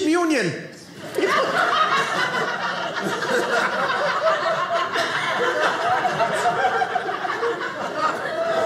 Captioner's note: audience laughing